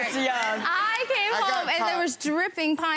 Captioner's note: people laughing